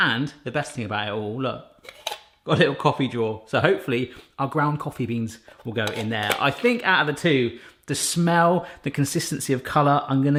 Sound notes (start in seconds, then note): none